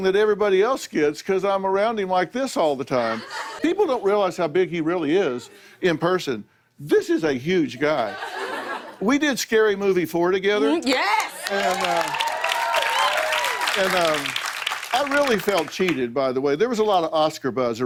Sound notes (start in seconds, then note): 10.9 cheers and applause